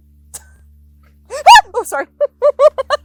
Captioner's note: screams